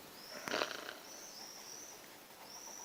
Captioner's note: snore